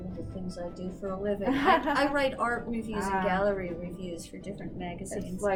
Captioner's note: laughs